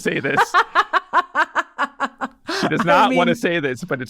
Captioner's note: person laughing